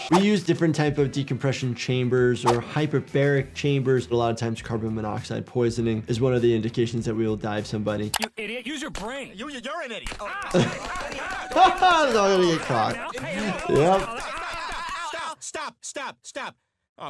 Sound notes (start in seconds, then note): 10.2 all shouting; 10.2 laughing